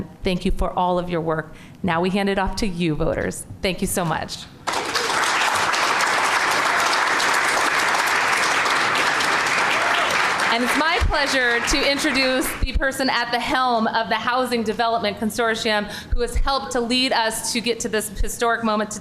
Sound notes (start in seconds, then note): 8.0 applause